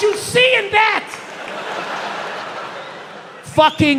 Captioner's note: audience laughs